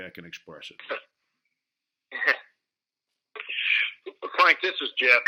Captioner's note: chuckling